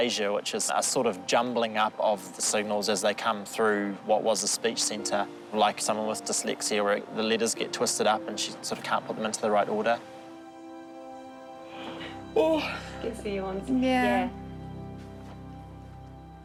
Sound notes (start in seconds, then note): 11.7 yawns